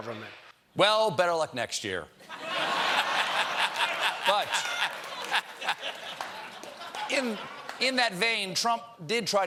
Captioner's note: laughter